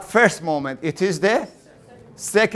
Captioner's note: class in unison